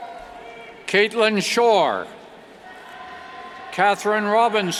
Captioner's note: cheers